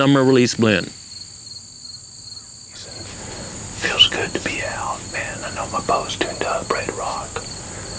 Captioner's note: whispering